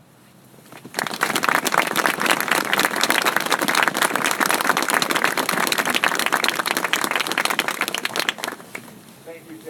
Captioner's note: applause